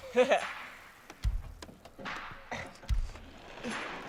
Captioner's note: gasping